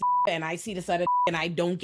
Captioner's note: beep